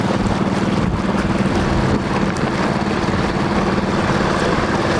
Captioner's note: boat engine rumbles